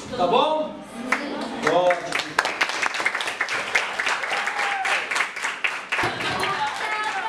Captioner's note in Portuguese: palminhas